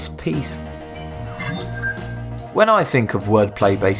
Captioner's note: sharp chiming